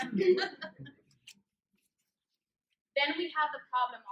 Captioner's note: laughter